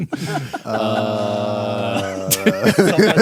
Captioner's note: all groaning